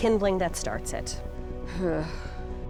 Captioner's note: sighs